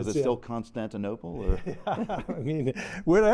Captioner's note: laughter